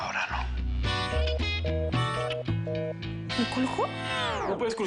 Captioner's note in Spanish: Tono de desconectado